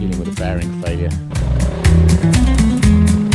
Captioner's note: engine noise